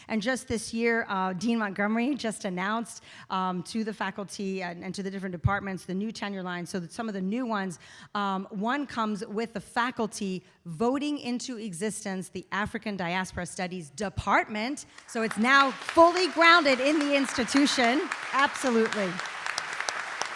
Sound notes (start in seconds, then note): 15.0 audience applauding